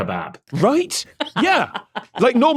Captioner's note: cackles